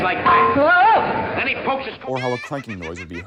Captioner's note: clank and exclamation